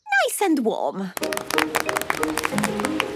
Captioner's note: applause